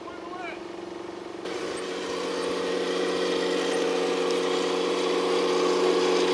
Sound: machine engines roaring

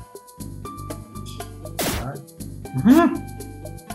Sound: laughs softly

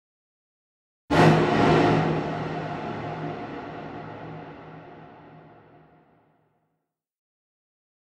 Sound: sound of bomb

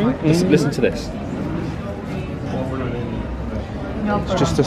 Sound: guests chattering

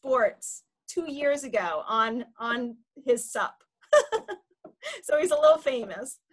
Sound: laughs

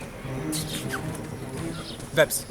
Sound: kiss

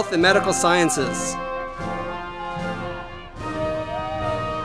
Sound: audience cheering

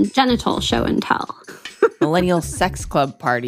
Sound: laughter

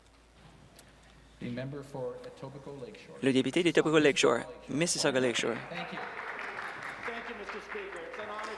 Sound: applause

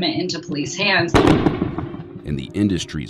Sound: explosion

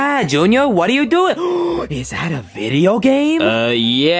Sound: gasps

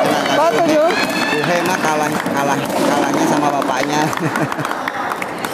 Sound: applause

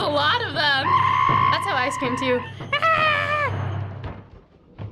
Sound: softly imitates screaming

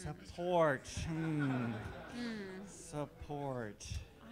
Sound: all laughing

